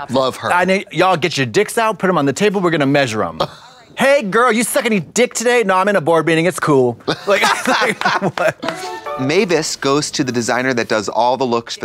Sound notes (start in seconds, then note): 7.2 Trixie giggles and claps; 8.6 bright chime